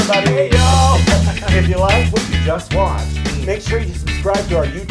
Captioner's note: laugh